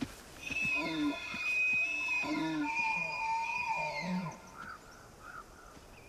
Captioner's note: bellows, calls